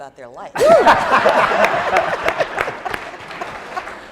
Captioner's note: laughing